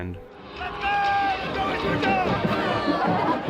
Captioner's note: football stadium ambient noise